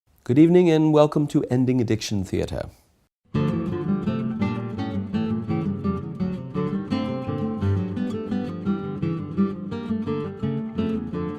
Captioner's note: in British Accent